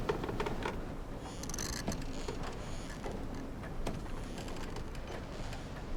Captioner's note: boards creaking